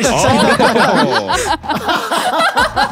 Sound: everyone laughs

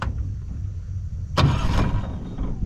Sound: engine rumbles

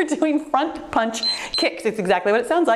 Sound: timer beeps

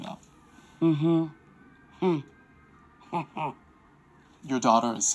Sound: chuckles

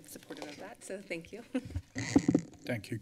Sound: laughs

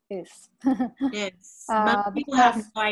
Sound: chuckles

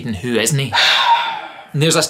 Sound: exacerbated sigh

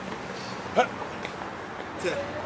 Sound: grunts

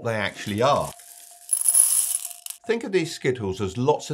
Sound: Skittles chink

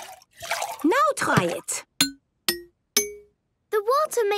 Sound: pitched tinks

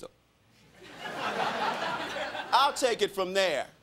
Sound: crowd laughing

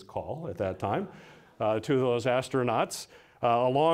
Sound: audience laughing

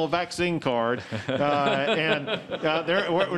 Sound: laughter

